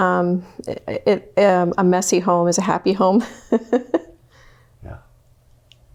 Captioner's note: laughs